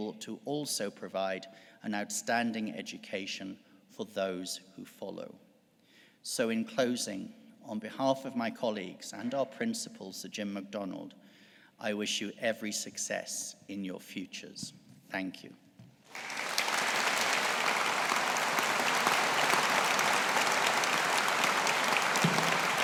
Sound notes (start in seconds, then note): 16.0 audience applauding